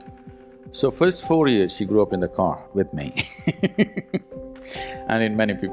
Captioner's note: laughs